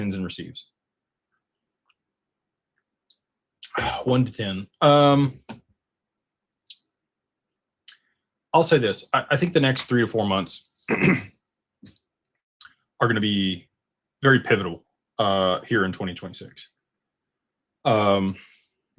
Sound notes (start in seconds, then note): 10.8 clears throat